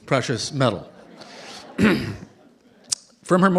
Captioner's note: laughter